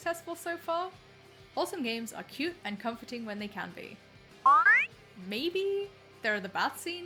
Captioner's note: question sound